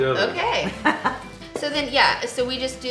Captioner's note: laughing